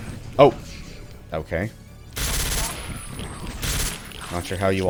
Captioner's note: more suppressed fire